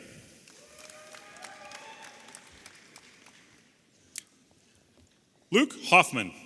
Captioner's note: audience applauding and cheering